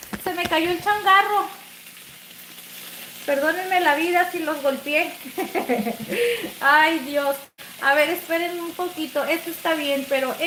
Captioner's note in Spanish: risas